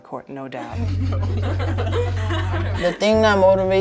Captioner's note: girls giggle